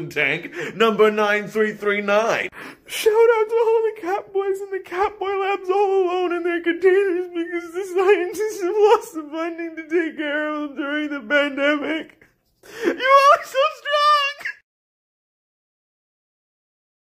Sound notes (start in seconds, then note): 2.7 tearfully